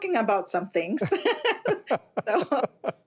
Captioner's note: laughter